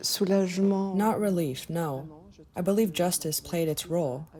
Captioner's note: through translator